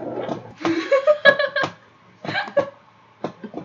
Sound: laughter

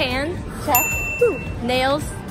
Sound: ping

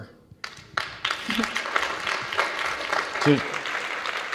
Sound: audience claps

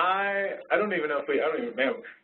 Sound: voiceover

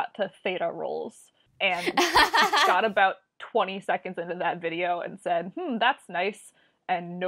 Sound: laughs

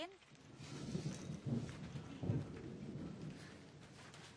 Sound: thunder clapping

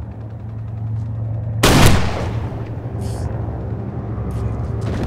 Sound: gun fires

